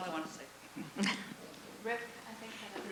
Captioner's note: laughs; voiceover